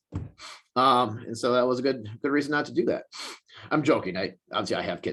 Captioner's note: sniffs